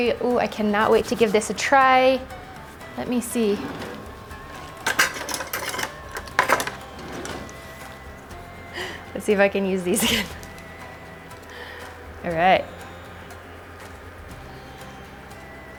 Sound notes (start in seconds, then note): 3.4 drawer opening; 9.8 laughs